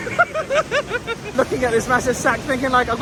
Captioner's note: laughing